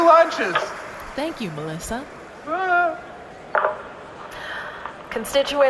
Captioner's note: nervously, over megaphone